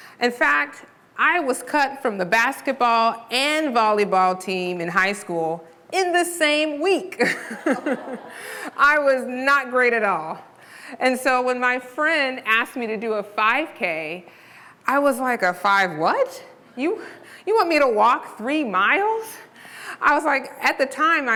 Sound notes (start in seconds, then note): 7.3 laughing